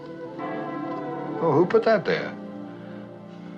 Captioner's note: bells Pealing